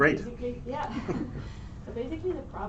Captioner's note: laughter